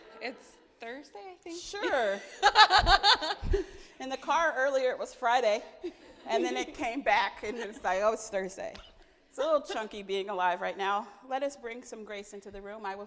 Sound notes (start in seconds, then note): 1.7 laughing